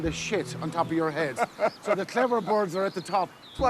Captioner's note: laughs